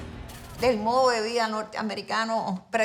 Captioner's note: speaking in Spanish